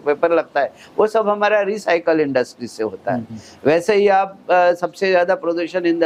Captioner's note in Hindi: नाक से की जाने वाली आवाज़